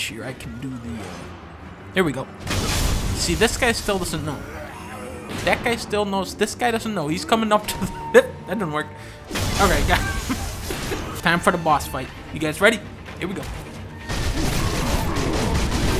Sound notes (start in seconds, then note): 10.0 laughs